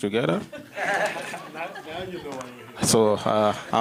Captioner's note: laughs